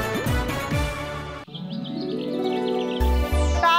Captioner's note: birds chirping